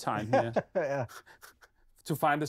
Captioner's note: laughing